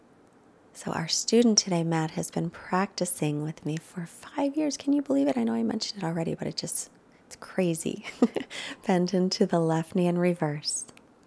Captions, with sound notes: So our student today, Matt, has been practicing with me for five years. Can you believe it? I know I mentioned it already, but it's crazy (laughs). Bend into the left knee and reverse.